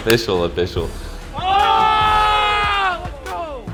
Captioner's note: group screams